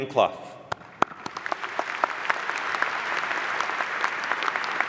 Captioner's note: applause